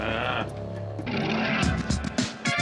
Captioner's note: Nash growls